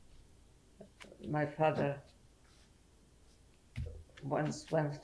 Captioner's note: pauses for 3 seconds